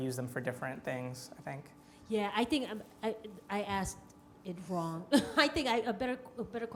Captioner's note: laughs